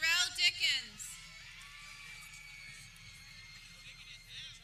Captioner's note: people cheering